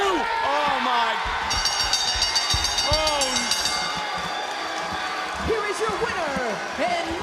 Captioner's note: bell rings